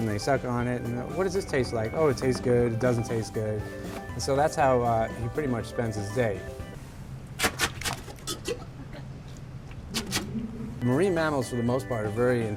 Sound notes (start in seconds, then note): 7.1 sucking noise